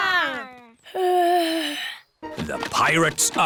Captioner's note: yawns